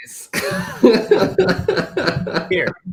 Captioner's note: laughter